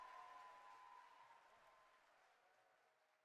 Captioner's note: cheering fades